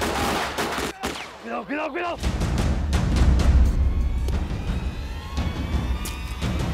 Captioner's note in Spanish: Disparos